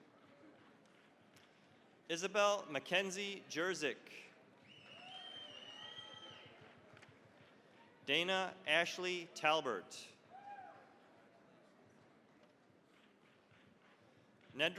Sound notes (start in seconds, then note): 0.1 applause; 4.8 cheering, applause; 10.3 cheering, applause